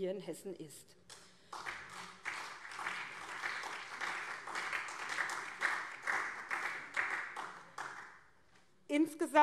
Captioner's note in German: Beifall SPD und CDU